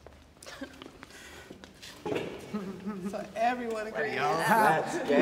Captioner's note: laughs